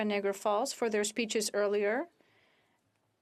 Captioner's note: speaking French